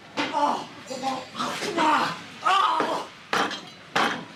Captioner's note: Alfred gags; head banging